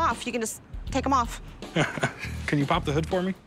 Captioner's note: laughs